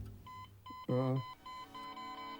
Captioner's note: beeping increases rapidly; Randolph groans